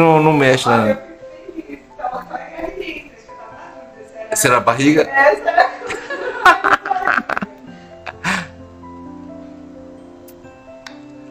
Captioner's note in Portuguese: Risos